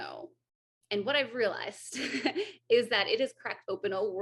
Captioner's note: AJ laughs